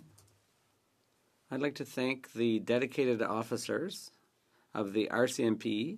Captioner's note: speaking French